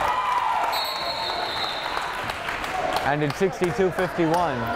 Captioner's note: crowd cheers